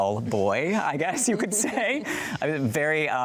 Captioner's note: both chuckling